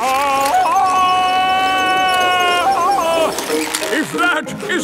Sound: yelling

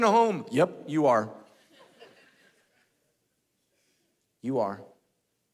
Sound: congregation laughing

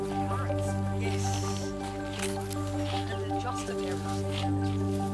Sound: chat quietly

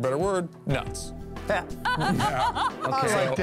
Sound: laughs

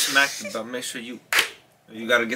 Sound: claps hand

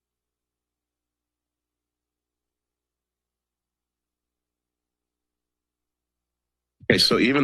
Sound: silence

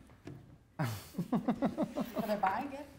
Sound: laughing

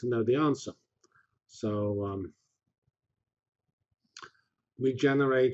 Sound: pause

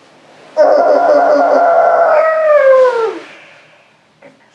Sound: Jack groans; whispers

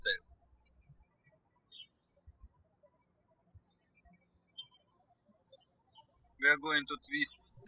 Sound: birds chirping

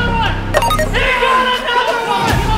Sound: beeping

